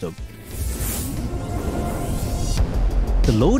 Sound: spaceship whooshes

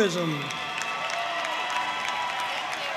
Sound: audience cheering and applauding

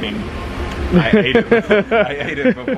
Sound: laughs

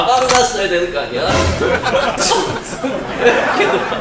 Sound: laughter

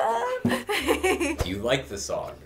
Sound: giggles

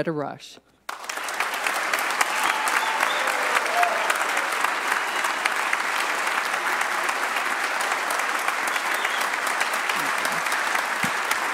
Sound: applause

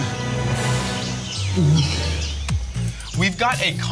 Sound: gulping

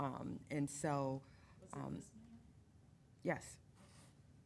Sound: woman speaking faintly

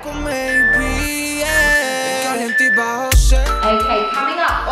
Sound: timer beeping

